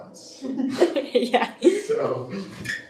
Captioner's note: chuckles